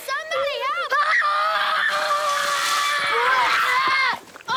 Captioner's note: screams